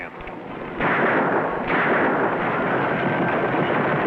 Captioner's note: gunshots